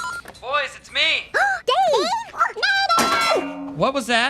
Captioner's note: phone rings; both gasp; loud clang